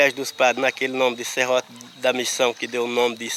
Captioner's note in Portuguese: Sons de insetos no mato